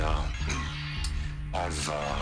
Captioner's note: cough